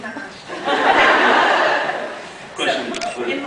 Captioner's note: laughs